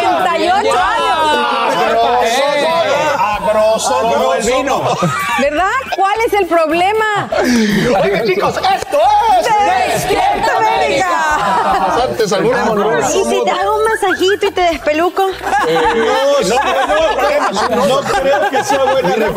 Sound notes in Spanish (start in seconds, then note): 6.9 risas; 19.1 risas